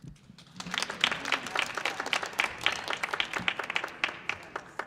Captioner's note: audience clapping